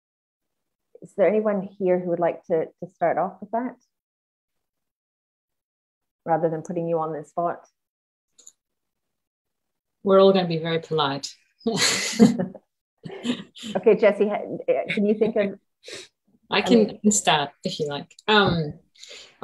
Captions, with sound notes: Is there anyone here who would like to start off with that? Rather than putting you on the spot? - We're all gonna be very polite. (laughs) - Okay, Jessie, can you think of... - I can start, if you'd like.